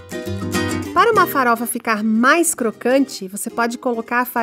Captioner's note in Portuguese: Voz em off